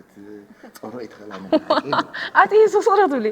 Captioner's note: laughs